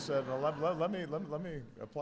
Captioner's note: laughter